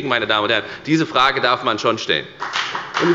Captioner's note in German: Beifall bei der FDP